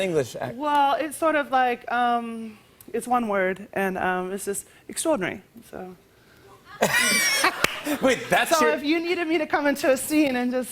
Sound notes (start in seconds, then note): 6.7 laughter